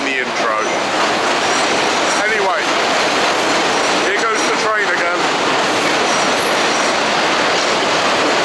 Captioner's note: train roars overhead